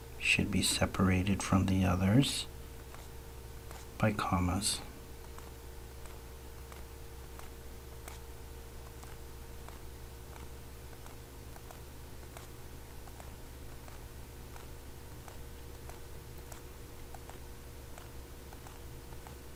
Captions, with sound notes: should be separated from the others by commas. [ Writing Sounds ]